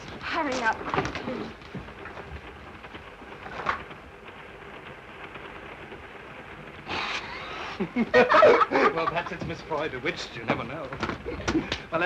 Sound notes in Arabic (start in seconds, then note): 1.4 صوت خشخشة القطار; 6.9 كلاهما يضحك